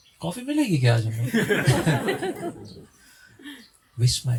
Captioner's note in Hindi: हंसी